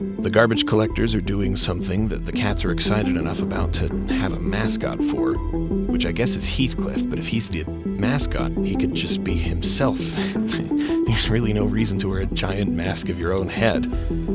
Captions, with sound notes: The garbage collectors are doing something that the cats are excited enough about to have a mascot for, which I guess is Heathcliff. But if he's the... mascot... he could just be himself. *quiet chuckle* There's... really no reason to wear a giant mask of your own head.